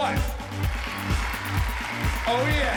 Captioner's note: cheers and applause